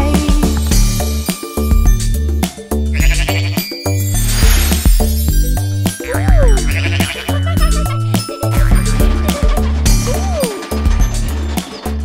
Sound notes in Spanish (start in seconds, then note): 1.0 Sonido de pájaros; 6.4 Sonido de oveja